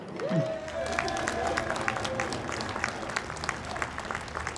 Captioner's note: audience applauds